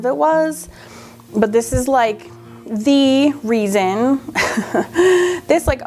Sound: laughs

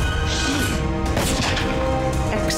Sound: gunshot

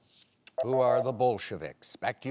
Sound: timer beeping

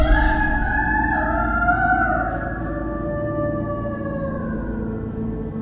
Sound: inmate howls in response

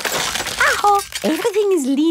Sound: house creaking

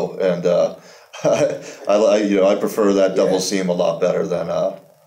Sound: laughs

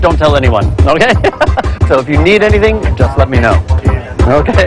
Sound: laughs

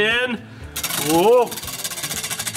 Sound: wheel spinning

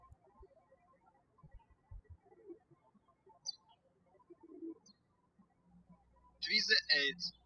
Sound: birds chirping

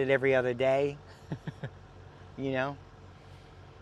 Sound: chuckling

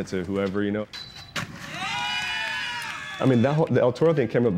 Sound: cheering

